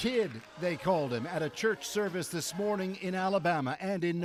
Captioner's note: applause